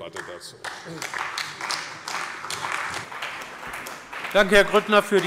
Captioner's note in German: Beifall bei der CDU und dem BÜNDNIS 90/DIE GRÜNEN